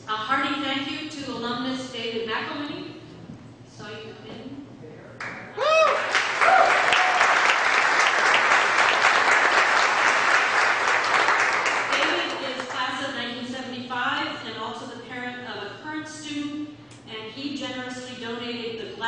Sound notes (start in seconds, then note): 5.5 audience member cheers; 5.8 audience clapping